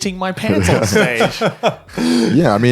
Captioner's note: laughing